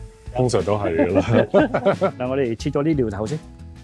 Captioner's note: laughs